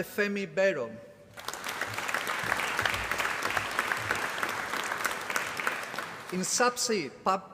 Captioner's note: applause